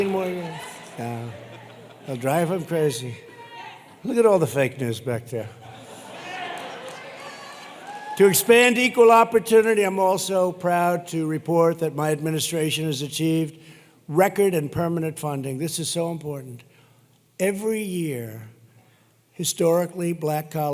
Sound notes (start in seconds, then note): 0.0 laughter; 5.6 laughter